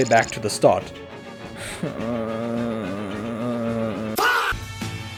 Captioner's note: pained noises